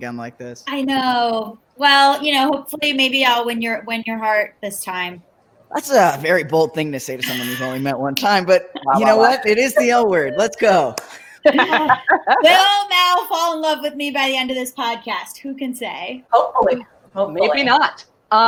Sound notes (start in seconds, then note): 8.4 laughing bashfully; 10.9 claps